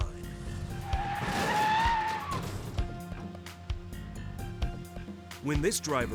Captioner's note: vehicles thudding; tires screeching